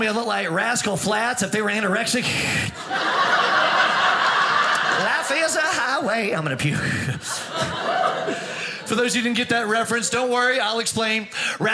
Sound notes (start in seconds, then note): 3.5 audience laughing; 7.2 audience laughing